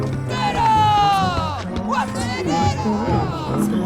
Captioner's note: cheers